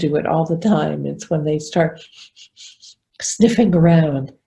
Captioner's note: sniffing